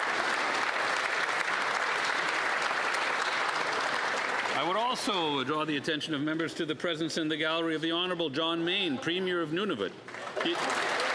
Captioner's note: applause